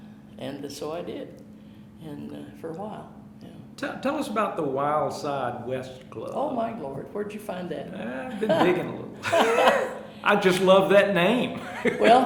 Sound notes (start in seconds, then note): 8.2 chuckling